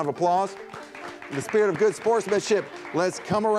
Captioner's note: audience applauds